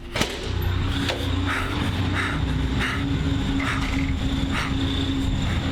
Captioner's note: student panting